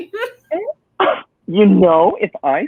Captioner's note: giggles